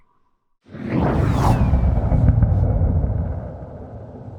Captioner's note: air whooshes